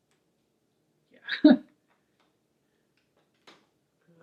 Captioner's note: chuckles